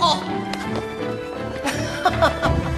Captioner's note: laughs